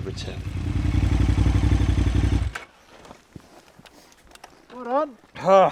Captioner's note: bike engine revving